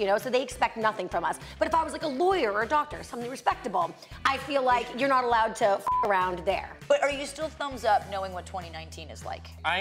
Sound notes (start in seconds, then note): 5.8 beep